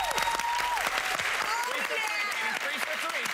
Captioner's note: cheers and applause